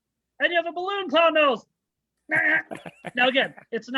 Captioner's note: chuckles